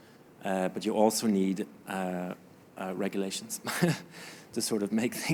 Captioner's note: chuckling